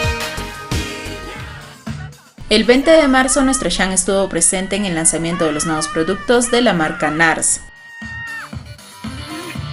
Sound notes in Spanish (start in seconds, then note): 6.0 grito